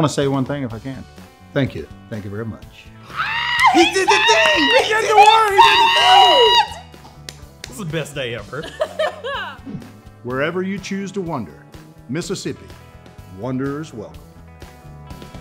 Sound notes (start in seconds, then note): 5.7 everyone cheering; 8.6 laughing